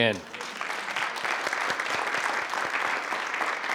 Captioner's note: group applauds